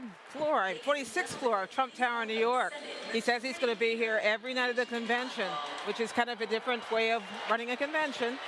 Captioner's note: cheering and applause